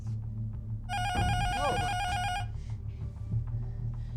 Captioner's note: intercom buzzer rings